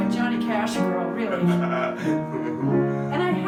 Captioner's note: laughing